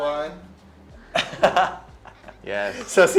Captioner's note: laughs